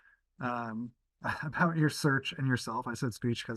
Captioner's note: laughs